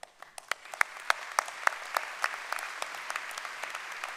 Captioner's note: applause